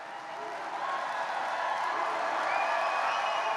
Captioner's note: applause